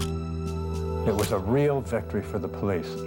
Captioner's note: camera shutter click